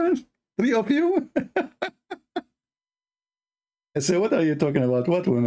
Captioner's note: Ketawa